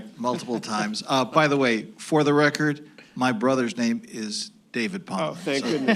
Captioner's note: laughter